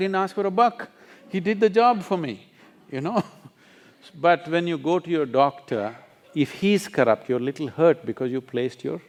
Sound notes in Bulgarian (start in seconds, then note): 4.6 Смее се